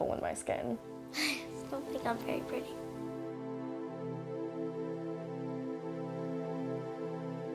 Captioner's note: chuckles